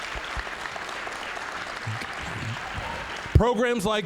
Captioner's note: applause, cheering; applause